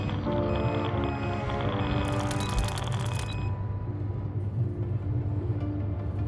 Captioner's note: keyboard clacking